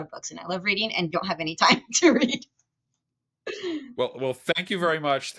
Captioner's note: chuckles